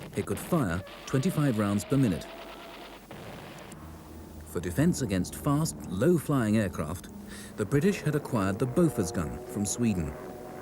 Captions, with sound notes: It could fire 25 rounds per minute. (gun rattles) For defense against fast low-flying aircraft, the British had acquired the Bofors gun from Sweden.